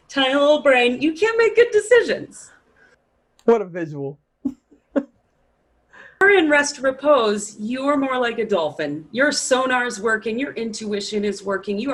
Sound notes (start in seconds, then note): 5.3 laughs